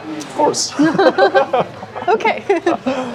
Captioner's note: laughing